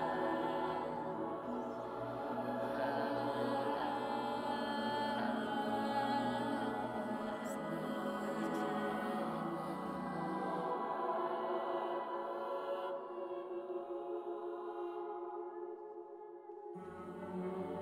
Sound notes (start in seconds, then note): none